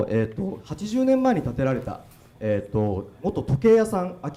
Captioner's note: speaking foreign language